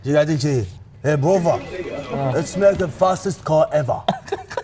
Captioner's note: in thick accent